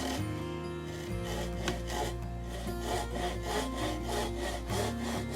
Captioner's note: wood crunching